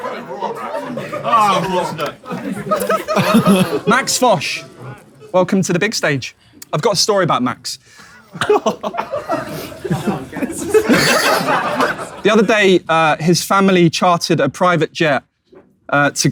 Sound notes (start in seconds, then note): 0.0 people in room continue chuckling; 8.1 people in room chuckling; 11.1 people in room laughing